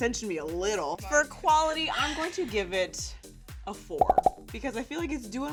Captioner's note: popping